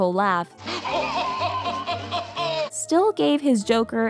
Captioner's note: laughing